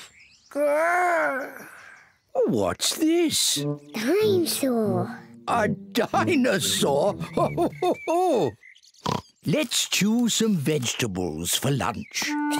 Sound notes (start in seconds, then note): 6.8 laughs; 9.0 oinks